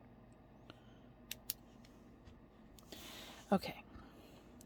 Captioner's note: light clicks to turn off; inhale